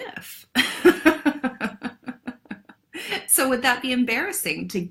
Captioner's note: laughs